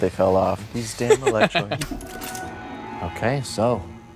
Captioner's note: laughs